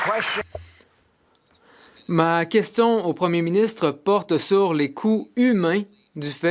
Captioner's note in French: voix de l'interprète